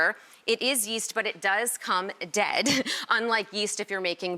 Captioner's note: laughs